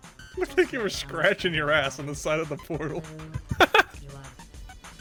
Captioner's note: laughs